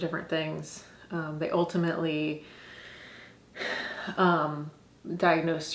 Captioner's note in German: seufzend